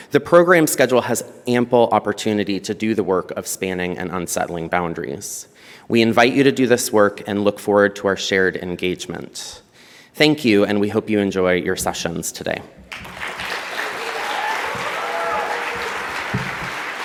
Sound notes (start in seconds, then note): 12.9 audience applauds